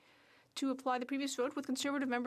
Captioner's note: speaking French